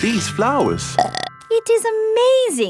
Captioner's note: burps